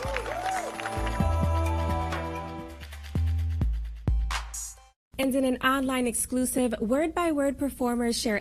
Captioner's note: applause